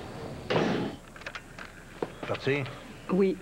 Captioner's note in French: Claquement de la porte